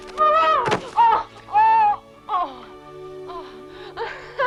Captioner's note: Hundra shouts; Hundra groaning; both laugh